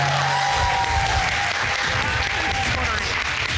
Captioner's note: audience applauding; audience cheering